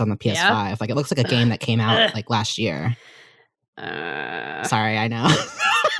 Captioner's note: groans